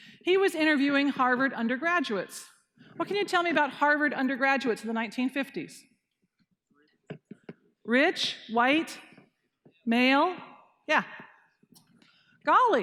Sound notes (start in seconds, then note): none